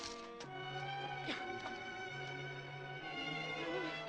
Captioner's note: virge sobbing